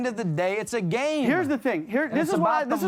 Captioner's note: none